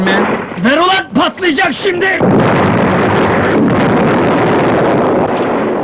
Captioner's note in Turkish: büyük gürültüyle patlar